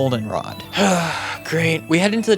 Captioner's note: sigh